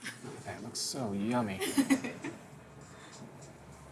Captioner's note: laughs; chuckles